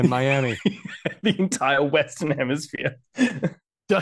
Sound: laughs

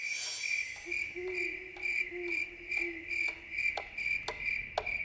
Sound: crickets chirp; owl hoots; clock ticks

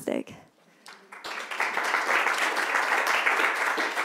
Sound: applause

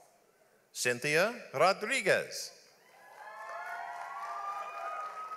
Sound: audience applauds

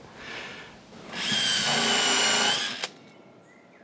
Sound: high whirring

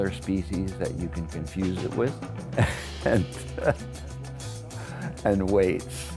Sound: laughs

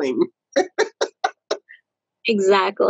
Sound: laughs

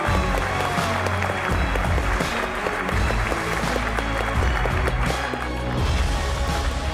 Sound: applause

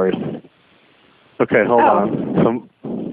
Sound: laughs

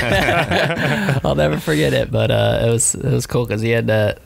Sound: laughing

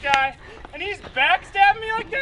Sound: laughs

